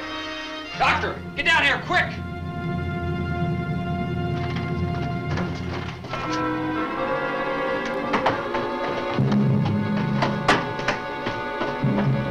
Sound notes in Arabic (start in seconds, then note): 6.0 موسيقى أوركسترالية مشوقة; 7.7 يغلق الباب